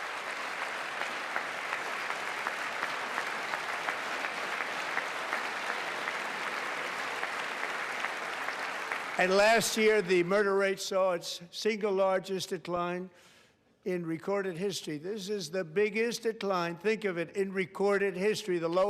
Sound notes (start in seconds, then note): 5.2 applause